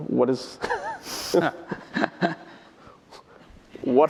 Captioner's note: laughter